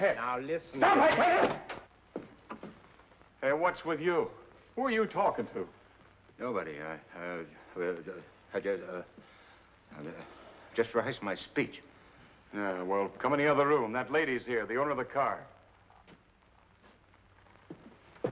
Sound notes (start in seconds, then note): 0.9 door opens; 8.8 stammers